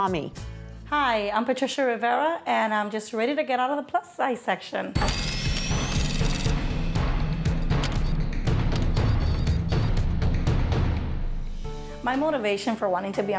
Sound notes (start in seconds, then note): 7.8 drilling, sound effects, drum beat